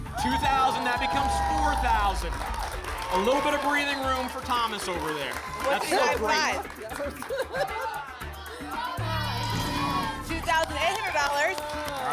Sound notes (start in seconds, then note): 7.4 laughs